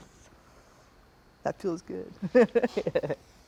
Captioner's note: chuckles